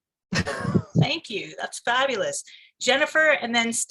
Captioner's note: laughs